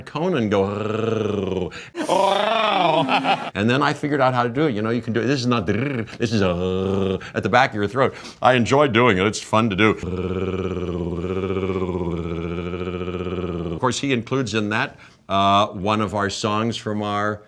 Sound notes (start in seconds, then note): 0.2 imitating growling sound; 6.4 imitating growling sound; 10.0 continuous imitating growling sound